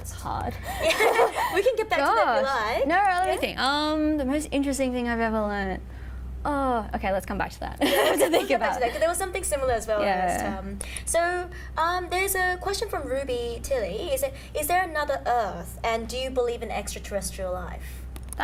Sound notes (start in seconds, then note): 0.8 laughing